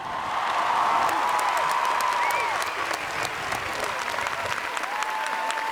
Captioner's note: students cheering and applauding